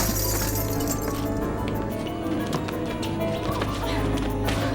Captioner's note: glass shattering